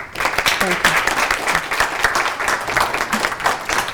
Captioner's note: applause